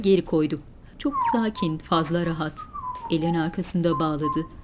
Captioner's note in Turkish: Islık sesi